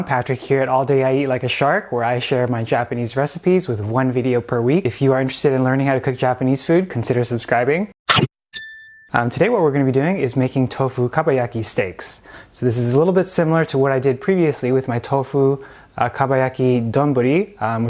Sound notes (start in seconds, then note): 8.2 shark bite; 8.5 bell dings